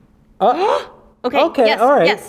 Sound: both gasp

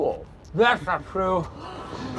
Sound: gasps

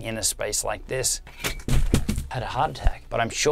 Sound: panel falling

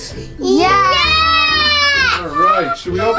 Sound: screaming in unison

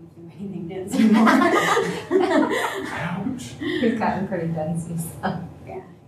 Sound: laughter

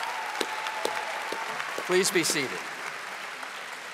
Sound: audience applauding

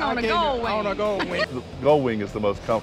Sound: laughs

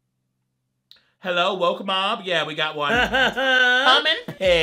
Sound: laughs

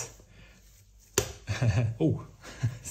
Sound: chuckling

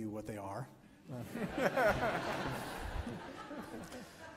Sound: laughs

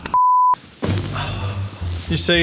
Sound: tone beeping; exhaling

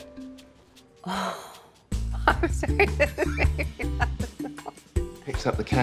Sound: gasps; laughs

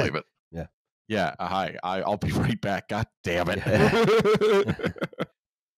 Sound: laughs

